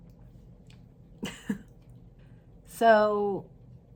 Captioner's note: chuckles